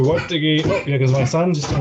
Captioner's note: banging